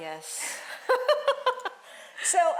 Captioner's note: laughing